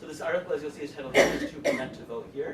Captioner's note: coughing